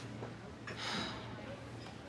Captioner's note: sighs